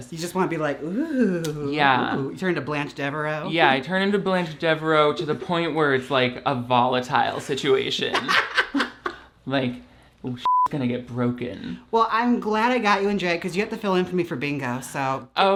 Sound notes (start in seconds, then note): 8.2 laughs